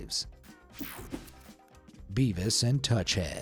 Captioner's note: screen whooshing